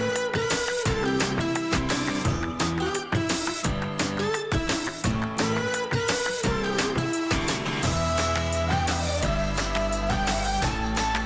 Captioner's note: applause